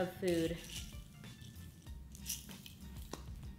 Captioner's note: rattling